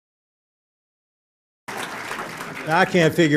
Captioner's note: silence; applause